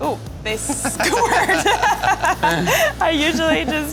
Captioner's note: laughter